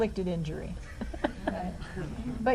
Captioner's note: laughs